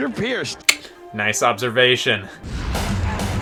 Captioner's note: clicks